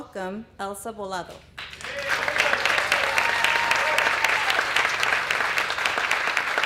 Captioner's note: applause